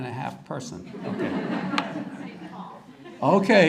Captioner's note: audience laughter